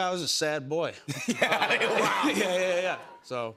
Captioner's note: laughs